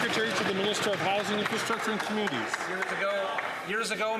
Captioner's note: some Applause